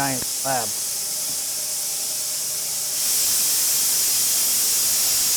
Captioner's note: machine grinds